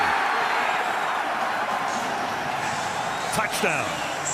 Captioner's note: cheering